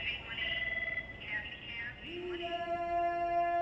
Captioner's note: woman speaking over intercom